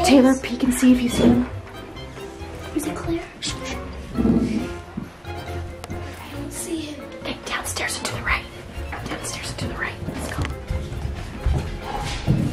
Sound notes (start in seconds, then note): 0.0 door bangs; 3.5 shushing; 7.5 whispering